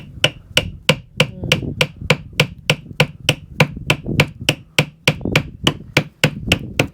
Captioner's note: hammering